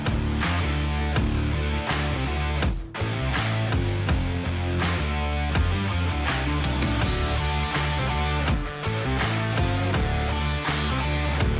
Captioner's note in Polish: Aplauz